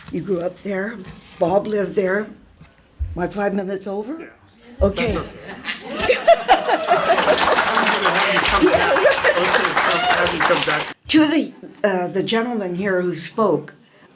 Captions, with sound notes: You grew up there. Bob lived there. My five minutes over. Okay. (laughs) (applause) Two of the gentleman here who spoke,